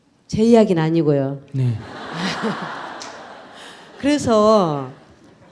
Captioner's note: audience Laughter